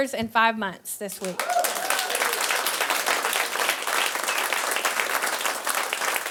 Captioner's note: audience applauding